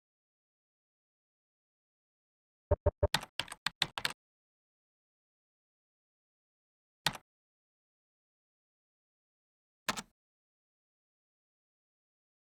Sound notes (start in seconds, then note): 2.7 typing sounds